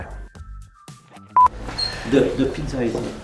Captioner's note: beeping